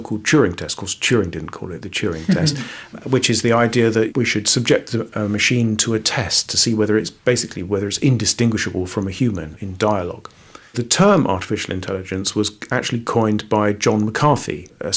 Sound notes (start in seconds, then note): 2.1 laughs